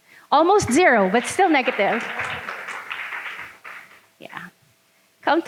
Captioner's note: audience clapping